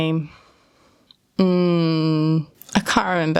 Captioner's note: pondering hmms